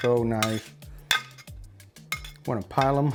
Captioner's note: spatula scraping